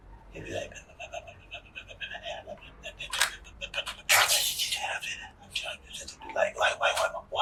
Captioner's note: muttering sound